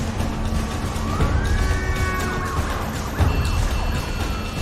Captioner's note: siren wailing, horns honking